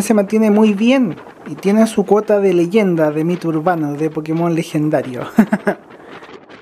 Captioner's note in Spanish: risas